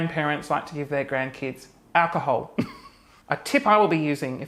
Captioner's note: chuckles